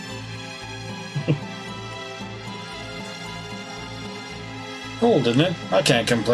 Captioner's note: chuckles